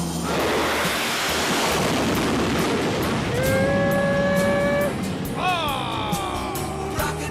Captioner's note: sound of drone being launched